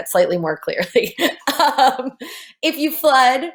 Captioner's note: laughing